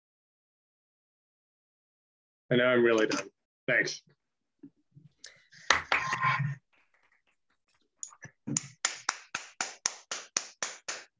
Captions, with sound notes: And now I'm really done. Thanks. [AUDIENCE APPLAUSE]